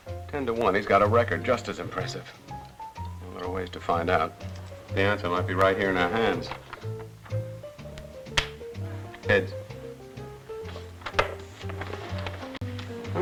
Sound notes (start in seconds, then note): 8.3 slaps